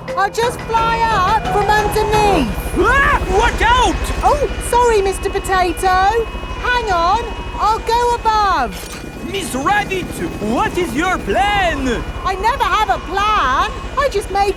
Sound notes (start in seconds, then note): 1.0 screams